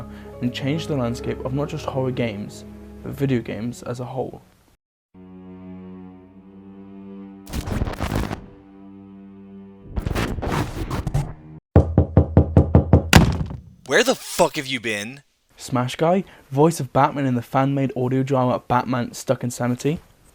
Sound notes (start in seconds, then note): 11.8 door Knocking